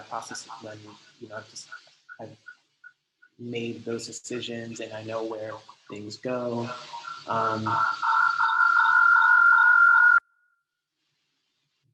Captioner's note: echoing